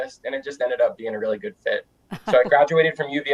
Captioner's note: chuckling